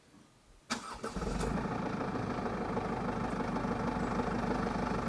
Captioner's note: engine turns on